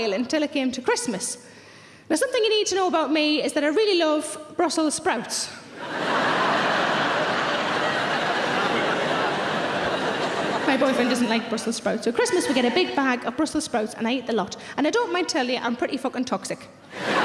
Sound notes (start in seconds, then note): 5.7 audience laughing